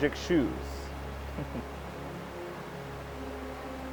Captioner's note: soft laugh